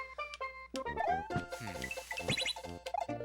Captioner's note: sigh